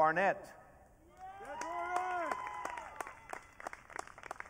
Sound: audience cheering

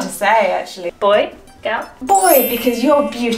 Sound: chimes tinkling

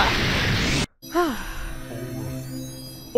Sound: sighs

